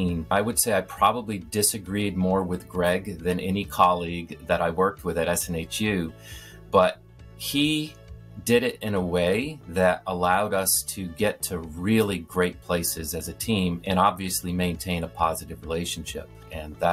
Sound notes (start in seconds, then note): none